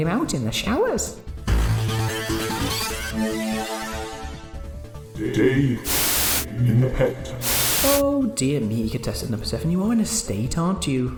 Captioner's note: Static